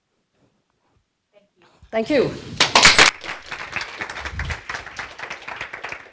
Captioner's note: applause